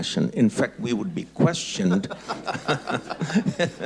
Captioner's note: laughs